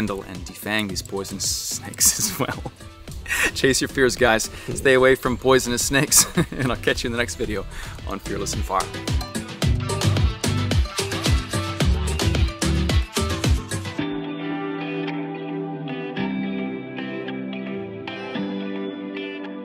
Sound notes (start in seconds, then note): 1.8 laughs; 9.0 louder upbeat music